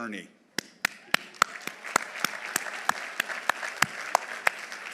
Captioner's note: audience applauding